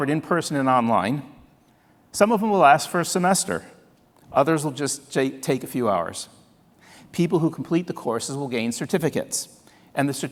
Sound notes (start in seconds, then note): none